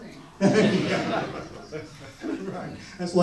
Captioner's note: audience laughs